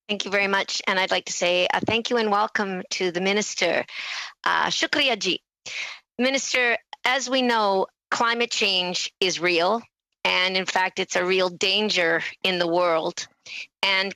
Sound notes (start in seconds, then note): 0.0 speaking French; 9.4 speaking Alternate Language